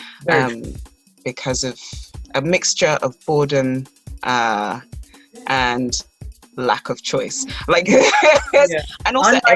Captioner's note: laughs